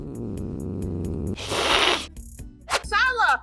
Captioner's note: Julia growling; hissing; slashing